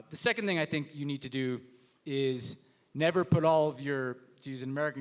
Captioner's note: none